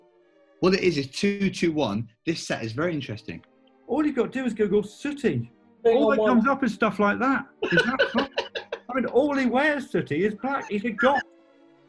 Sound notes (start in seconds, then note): 7.6 giggling